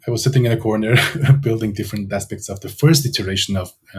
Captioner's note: laughs